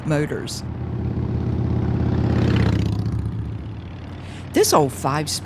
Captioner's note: engine rumbling